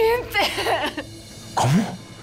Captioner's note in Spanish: Sollozos